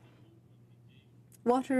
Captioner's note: speaking French